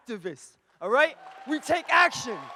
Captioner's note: audience cheers and applauds